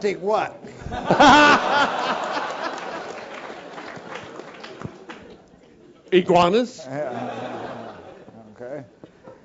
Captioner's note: laugh